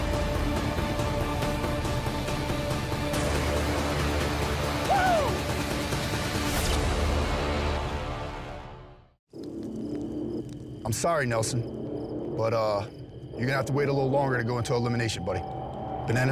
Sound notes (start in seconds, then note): 0.2 dramatic music; 4.8 yelling triumphantly